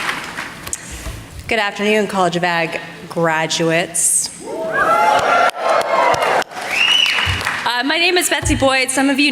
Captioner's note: applause